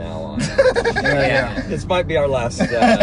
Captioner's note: laughing